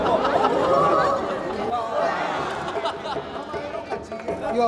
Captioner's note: crowd chattering